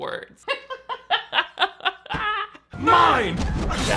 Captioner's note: laughs